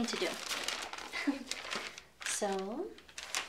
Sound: paper rustling; chuckles

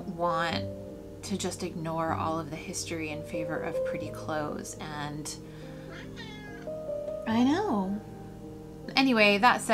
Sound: meow

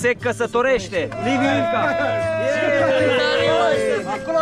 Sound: everyone cheers

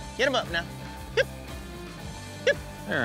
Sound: calling

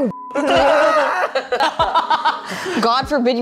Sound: beep; laughing

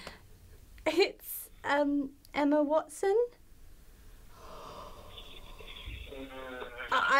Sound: lets out a breath

